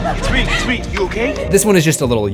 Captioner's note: screams